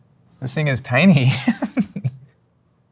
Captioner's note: laughs